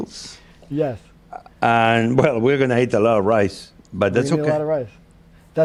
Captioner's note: laughs